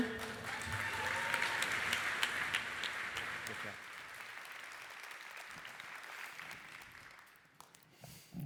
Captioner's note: applause